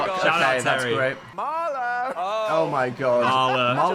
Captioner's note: chuckling